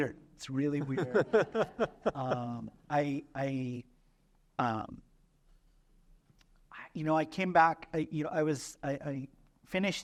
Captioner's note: laughter